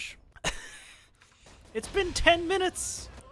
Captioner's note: laughs